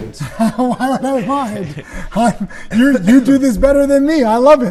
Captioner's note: laughing